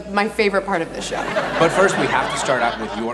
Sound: audience laughs

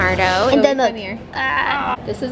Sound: groaning

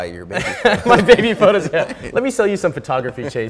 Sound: both chuckling

